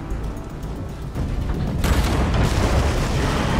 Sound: gun shot; screaming

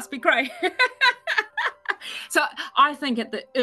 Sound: laughs

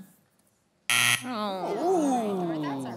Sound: buzzer sounds

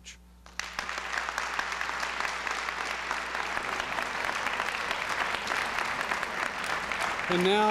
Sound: applause

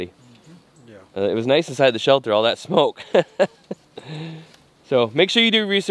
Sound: laughs

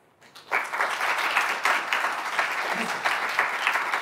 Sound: audience applauding

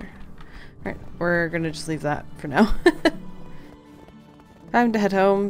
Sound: laughs

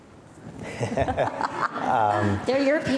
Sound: laughing

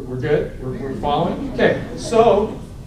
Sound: laughter

